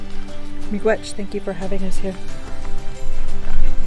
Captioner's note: speaking in foreign language